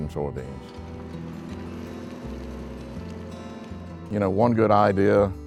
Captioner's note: engine running